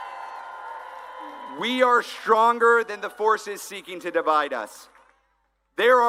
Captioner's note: applause